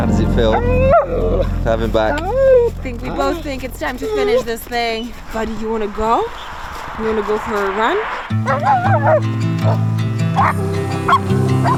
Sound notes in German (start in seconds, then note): 2.3 Hund wimmert; 8.3 lebendige Musik